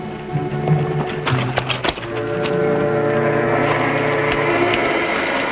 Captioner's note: gentle tense music; footsteps pattering; suspenseful music